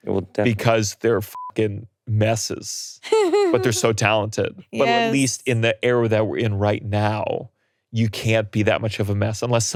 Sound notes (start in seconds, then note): 2.2 beeps; 3.0 laughing